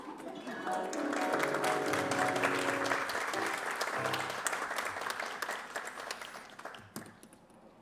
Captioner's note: applause